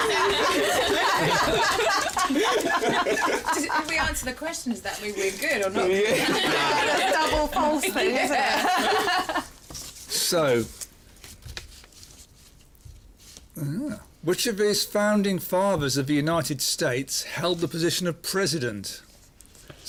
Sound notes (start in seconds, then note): 0.0 laughter; 8.3 chuckles